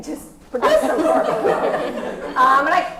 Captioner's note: laugh